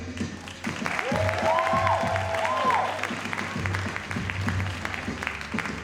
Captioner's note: crowd cheering and applauding